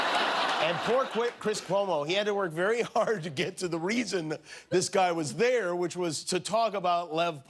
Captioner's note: laughter